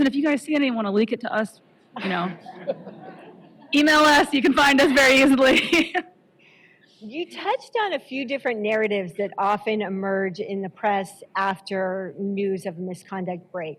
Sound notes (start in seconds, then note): 2.1 laughter; 5.4 chuckles